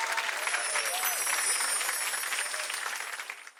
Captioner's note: audience cheering and clapping; bells chiming